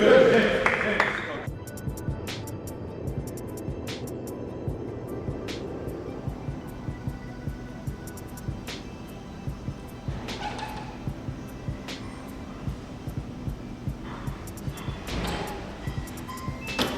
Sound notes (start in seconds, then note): 1.6 soft hip-hop music; 1.6 train rumbling